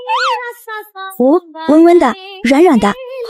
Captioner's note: sobs